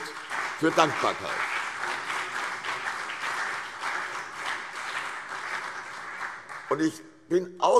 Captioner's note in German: Beifall CDU und BÜNDNIS 90/DIE GRÜNEN